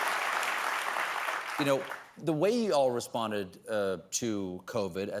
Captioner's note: applause